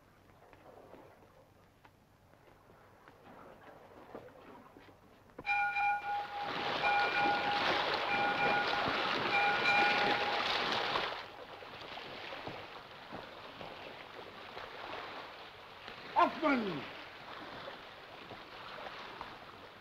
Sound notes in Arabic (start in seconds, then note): 5.4 رنين الجرس; 6.3 رش الماء